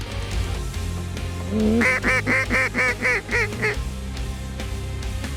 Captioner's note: duck calls